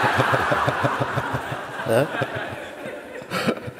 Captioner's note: laughter